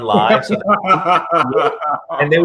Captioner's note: laughs